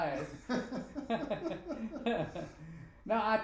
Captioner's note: both laughing